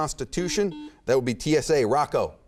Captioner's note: beeping